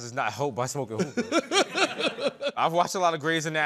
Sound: laughter

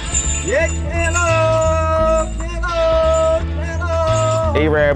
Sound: arabber shouting

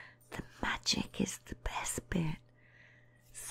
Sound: whispering

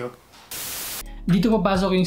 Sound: static sound

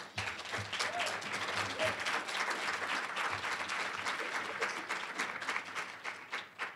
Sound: applause

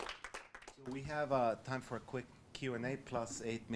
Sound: voiceover

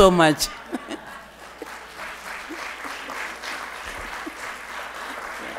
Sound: audience laughing and applauding

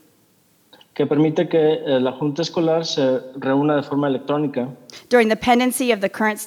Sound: translator speaking in Spanish

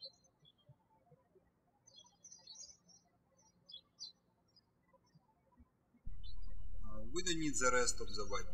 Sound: birds chirping

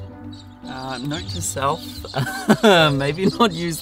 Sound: laughing

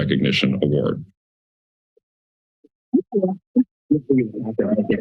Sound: silence

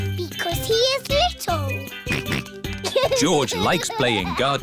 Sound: snorts

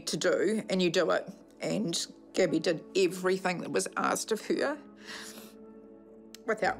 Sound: sniffles

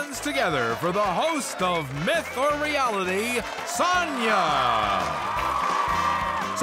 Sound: audience cheers

